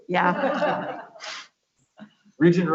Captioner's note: laughs